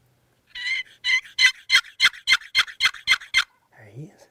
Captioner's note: turkey calling